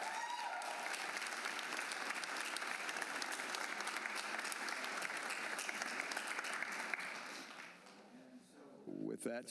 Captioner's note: cheers and applause